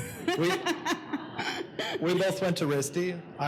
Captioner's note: laughs